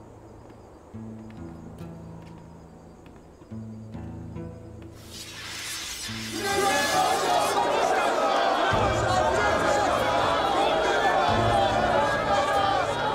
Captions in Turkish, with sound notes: (Kılıç çekme sesi) Süleyman Şah’ım çok yaşa! Süleyman Şah’ım çok yaşa! Süleyman Şah’ım çok yaşa!